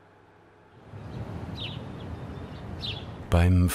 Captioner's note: birds chirping